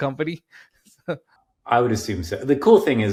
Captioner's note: chuckling